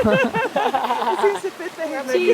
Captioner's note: laughs